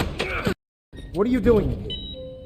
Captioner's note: gunshot